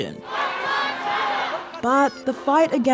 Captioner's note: all chant